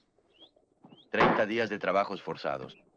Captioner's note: gavel bangs